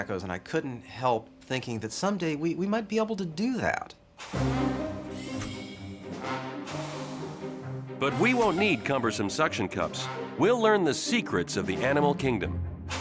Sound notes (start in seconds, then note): 4.2 dramatic music; 4.4 suction cups hissing